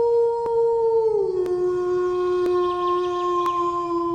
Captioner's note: howl